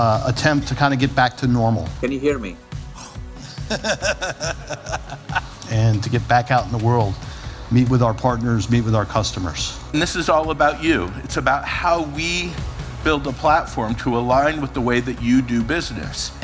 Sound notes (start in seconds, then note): 3.4 laughs